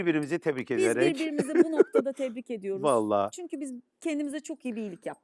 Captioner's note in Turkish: kahkaha